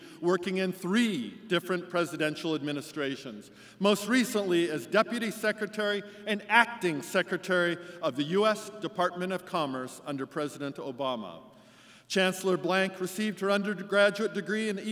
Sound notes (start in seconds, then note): none